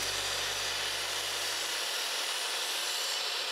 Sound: saw cutting

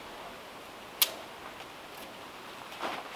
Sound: none

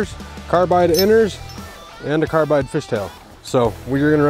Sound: metal clicks

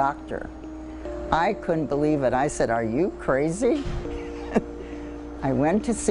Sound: laughs

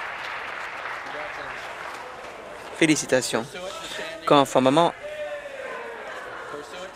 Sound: applause

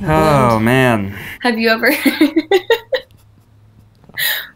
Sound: woman laughs

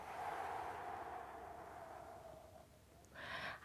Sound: soft exhaling

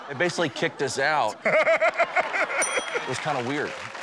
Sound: laughs

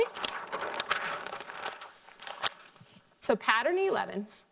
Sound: paper rustling

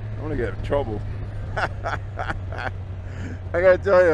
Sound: laughing

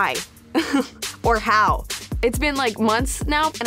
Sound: laughing

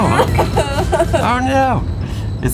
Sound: laughs

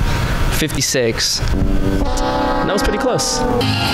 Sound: wrong answer sound effect

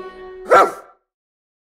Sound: dog barks

